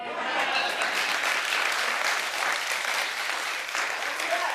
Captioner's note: audience clapping